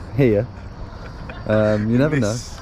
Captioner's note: laughing